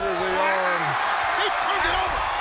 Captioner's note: crowd cheering